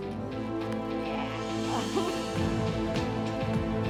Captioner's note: laughs